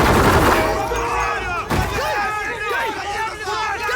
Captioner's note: gunfire; men shouting